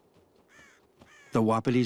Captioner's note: cows cawing